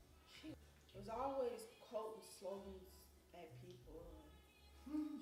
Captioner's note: laughs